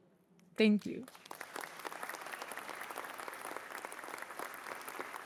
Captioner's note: applause